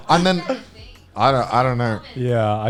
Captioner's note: laughing